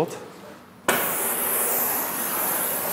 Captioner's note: bunsen burner hisses